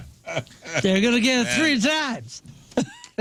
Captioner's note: laughing